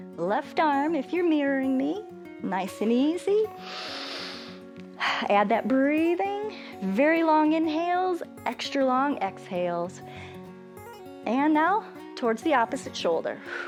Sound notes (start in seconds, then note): 3.6 inhales and exhales